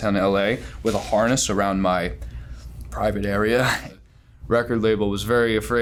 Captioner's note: laughs